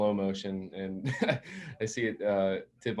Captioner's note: chuckles